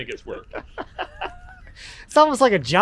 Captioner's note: both laugh